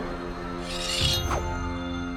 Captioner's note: swords tinging